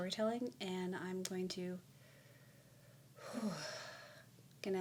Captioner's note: sigh